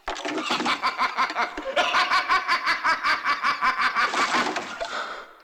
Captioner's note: Echoes of Indio's laughter